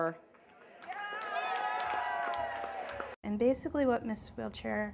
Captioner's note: cheering